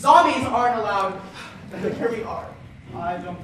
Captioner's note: sigh